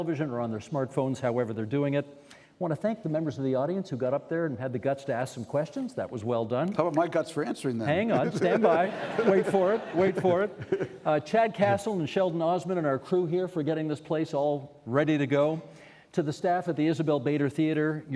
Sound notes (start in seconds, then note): 9.5 chuckling